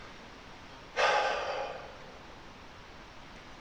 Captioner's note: breath